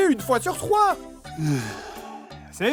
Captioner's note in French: soupir